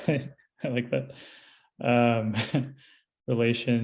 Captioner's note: laughs